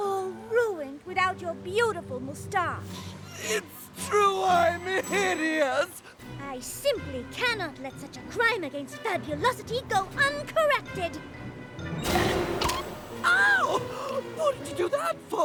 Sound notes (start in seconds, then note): 12.2 crunch! plink!